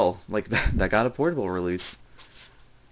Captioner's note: chuckle